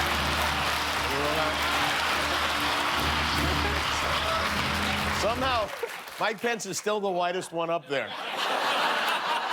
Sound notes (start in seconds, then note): 4.1 applause